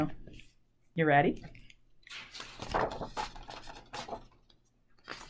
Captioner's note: pages turn loudly